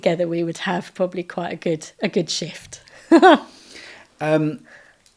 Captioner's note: laughing